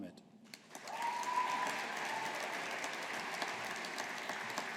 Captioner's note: audience applauding